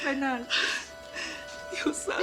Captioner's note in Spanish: Sollozos